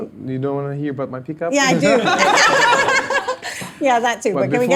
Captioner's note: all laughing